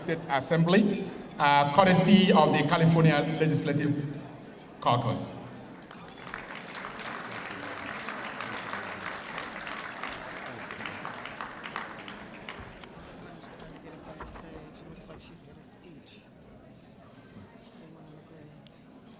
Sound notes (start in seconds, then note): 5.8 applause